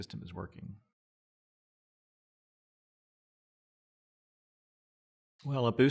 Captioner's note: silence